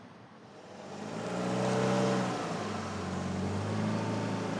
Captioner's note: engine rumbling